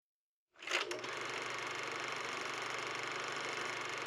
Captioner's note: whirring